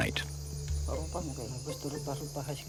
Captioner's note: foreign spoken audio